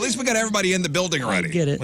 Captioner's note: none